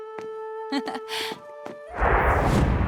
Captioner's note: chuckles